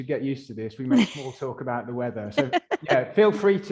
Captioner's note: laughing